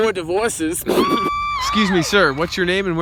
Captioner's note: laughs; women in audience cheer